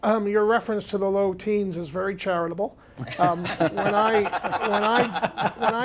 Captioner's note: laughter